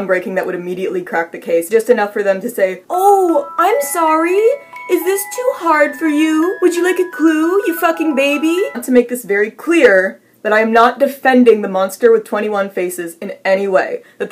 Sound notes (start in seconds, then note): 3.5 in a mocking tone